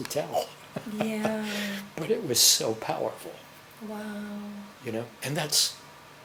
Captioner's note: laughs